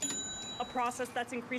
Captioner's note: cha-ching